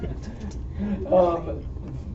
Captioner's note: laughter